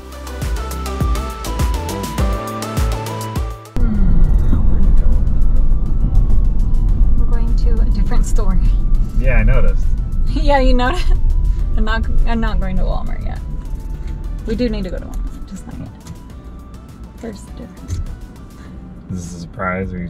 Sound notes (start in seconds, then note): 0.0 upbeat music; 3.8 yawns